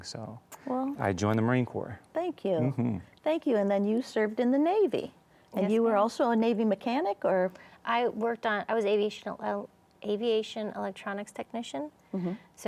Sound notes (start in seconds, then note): none